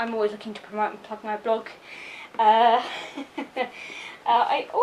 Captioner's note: laughs